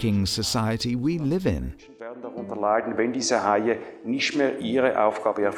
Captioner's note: foreign Language